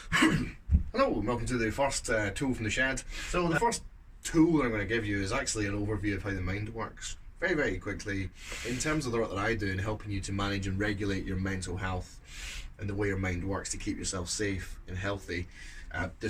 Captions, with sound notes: - (coughs) Hello, welcome to the first "Tools from the Shed." So the first tool we're gonna give you is actually an overview of how the mind works. Very, very quickly. In terms of the role I do in helping you to manage and regulate your mental health and the way our mind works to keep ourselves safe and healthy.